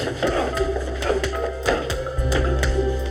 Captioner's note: grunting